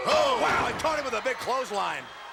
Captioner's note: commentators exclaim